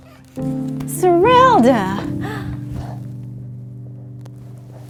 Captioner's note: door knocks